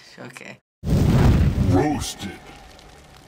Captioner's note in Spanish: rugido de las llamas; voz en off